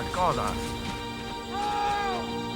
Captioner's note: pat